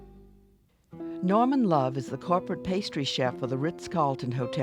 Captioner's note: voiceover